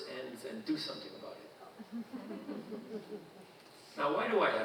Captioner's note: audience chuckling